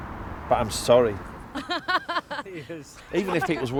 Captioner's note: laughter